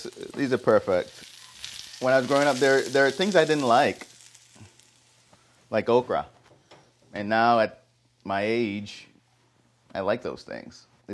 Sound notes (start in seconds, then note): none